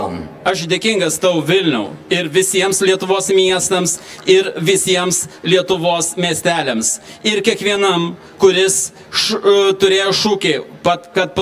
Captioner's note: Lithuanian